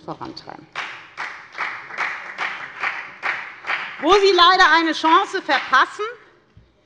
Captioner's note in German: Beifall bei der FDP